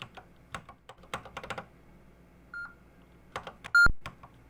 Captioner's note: typing on a C64 keyboard